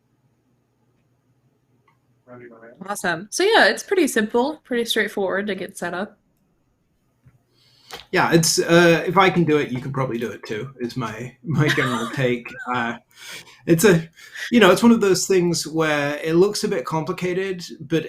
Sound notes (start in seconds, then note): 11.4 chuckles